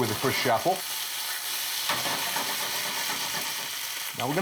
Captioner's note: oil sizzling